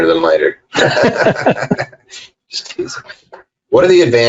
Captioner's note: laughing